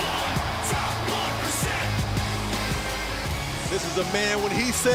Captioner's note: crowd cheering